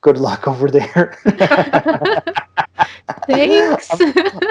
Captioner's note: laughter